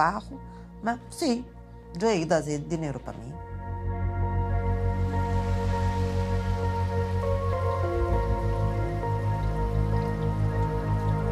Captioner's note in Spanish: música agradable; sonido de lluvia